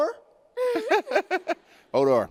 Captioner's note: pained laughter